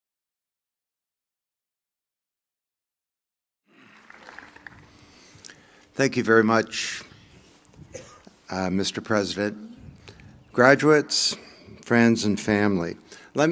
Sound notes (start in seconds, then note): 3.7 applause